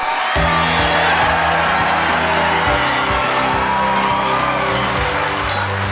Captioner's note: Gritos e aplausos